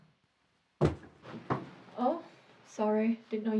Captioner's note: door clatters